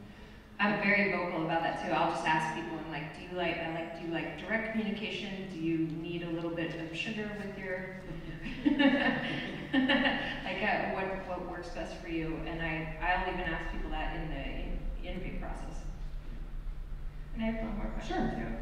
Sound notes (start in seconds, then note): 8.1 laughs